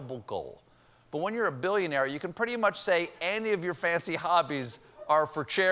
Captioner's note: as pompous rich guy